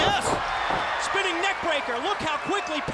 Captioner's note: crowd cheering